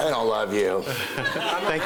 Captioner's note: laughing